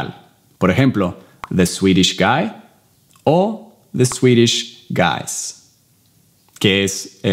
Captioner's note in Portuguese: Inglês